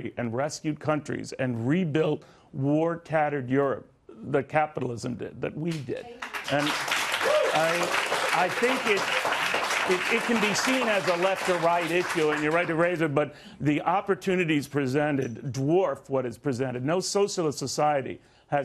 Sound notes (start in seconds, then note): 11.7 applause